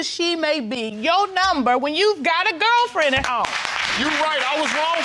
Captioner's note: audience applauding